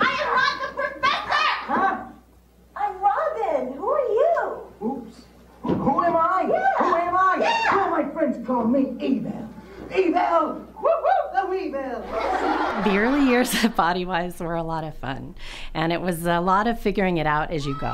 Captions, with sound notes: I am not the professor! I'm Robin! Who are you? Oops. Who am I? Yeah! Who am I? Yeah! Some of my friends call me Evil. Evil, whoop-whoop! The weevil. (audience laughter) The early years of Bodywise were a lot of fun, and it was a lot of figuring it out as you go.